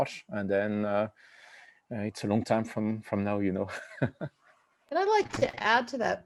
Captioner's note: laughs